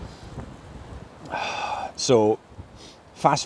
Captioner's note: weary sigh